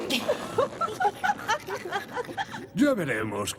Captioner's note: giggles